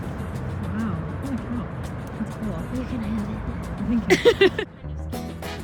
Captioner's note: laughing